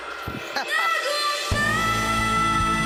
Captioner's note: chuckling